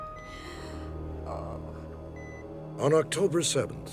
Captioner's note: groaning